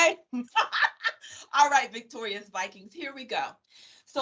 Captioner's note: laughing